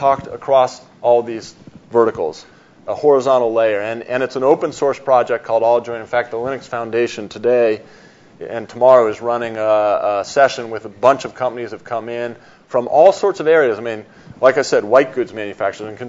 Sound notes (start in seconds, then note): none